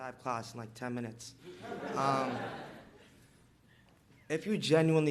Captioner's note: audience laughs